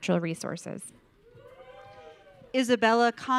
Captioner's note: audience cheering